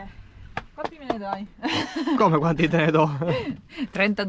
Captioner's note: laughter